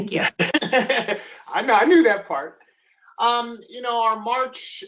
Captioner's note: laughs